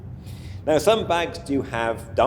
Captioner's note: inhales audibly